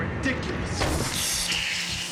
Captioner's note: can pops